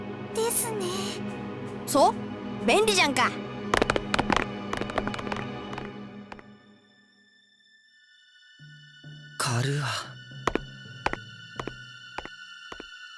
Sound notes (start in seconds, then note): 8.3 silence